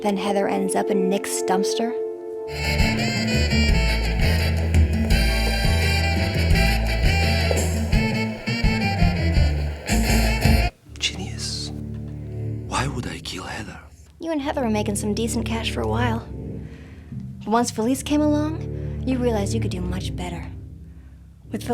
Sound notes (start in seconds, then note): 2.5 fast tempo upbeat music; 2.6 group chattering